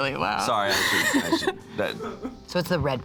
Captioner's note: laughs